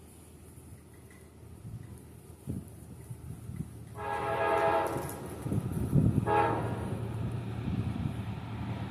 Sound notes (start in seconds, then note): 6.2 hooooooooorn; 6.2 horn